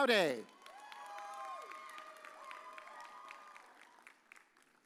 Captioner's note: audience cheers